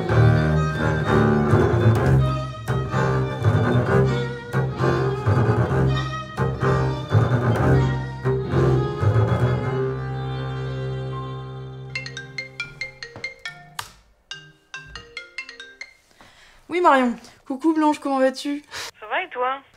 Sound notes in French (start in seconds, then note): 11.9 Sonnerie de téléphone